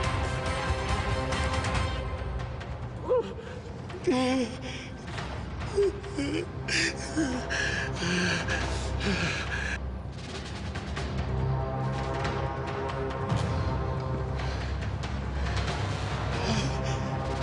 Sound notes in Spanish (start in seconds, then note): 3.0 Sollozos; 16.3 Sollozos